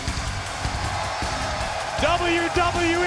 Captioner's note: crowd cheers